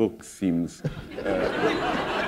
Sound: laughter

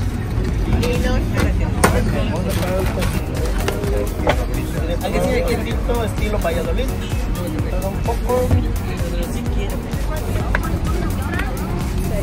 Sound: street noise

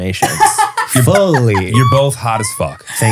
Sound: laughing

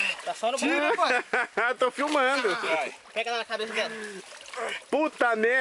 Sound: 3 man speaks in foreign language

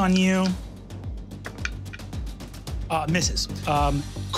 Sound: dice clattering

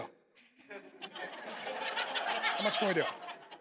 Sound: congregation laughing

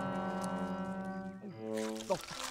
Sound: munching

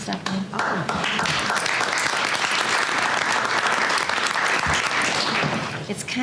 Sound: applause

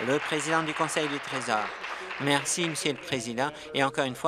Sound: applause

